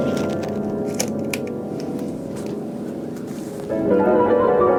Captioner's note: camera clanking; pensive piano music